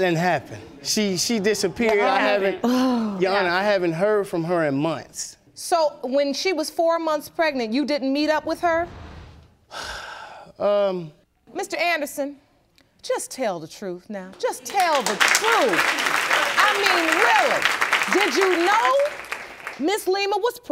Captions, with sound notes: She disappeared and I haven't heard from her in months. So, when she was four months pregnant, you didn't meet up with her? (SIGHS) Um... Mr. Anderson, just tell the truth now. Just tell the truth. (AUDIENCE APPLAUDING) I mean, really, did you know Ms. Lema was pregnant?